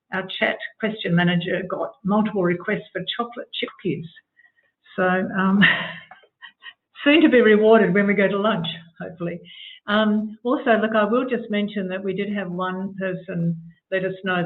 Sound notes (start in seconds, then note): 6.4 laughs